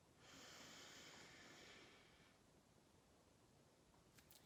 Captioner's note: deep inhaling